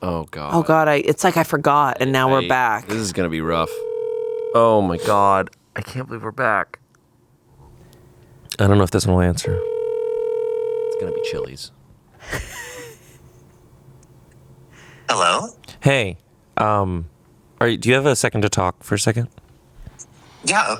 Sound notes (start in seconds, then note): 3.6 phone rings; 12.2 laughs